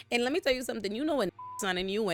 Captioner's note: beep